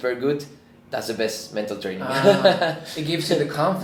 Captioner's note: laughs